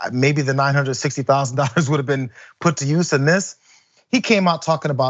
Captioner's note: laugh